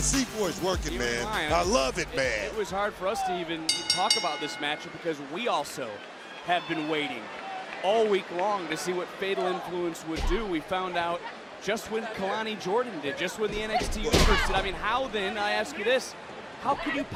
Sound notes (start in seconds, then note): 3.6 bell rings